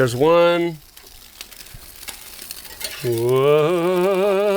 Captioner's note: sizzling